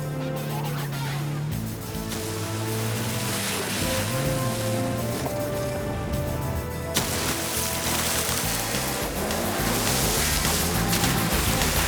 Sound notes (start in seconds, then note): 0.2 car engine revving; 3.4 water splashing; 9.5 energetic funky music; 11.6 car engines revving; 11.6 water splashing